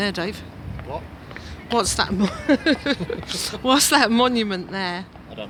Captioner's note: laughter